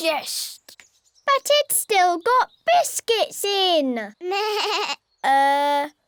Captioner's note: bleats